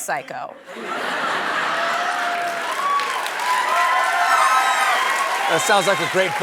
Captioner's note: cheers and applause